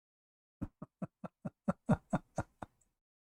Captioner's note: Ketawa